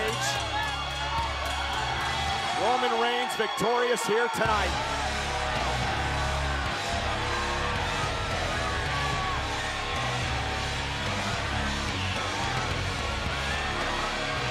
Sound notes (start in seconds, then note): 6.0 crowd cheering; 6.0 upbeat rock music continues